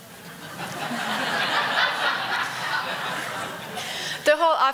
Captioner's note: audience laughing